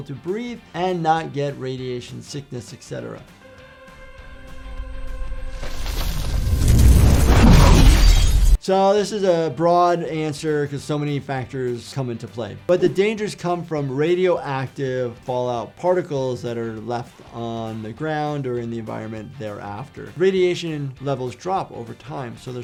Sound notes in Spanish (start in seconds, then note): 4.5 viento susurrando; 7.2 vidrio roto